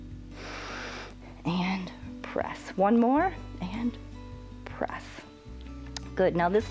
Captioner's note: inhales